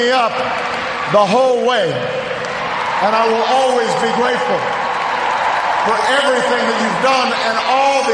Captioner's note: cheers, applause